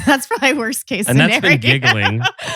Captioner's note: laughs